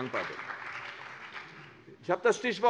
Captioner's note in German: Beifall CDU und BÜNDNIS 90/DIE GRÜNEN